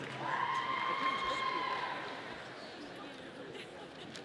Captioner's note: audience cheering